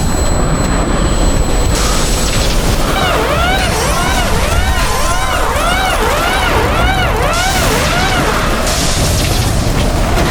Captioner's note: sirens wail as a tornado-like storm destroys everything at sea